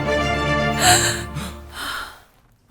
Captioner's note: Varlahm gasps; gasps